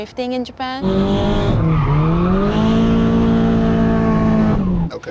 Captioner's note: engine revving